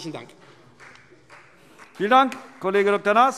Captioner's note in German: Beifall Freie Demokraten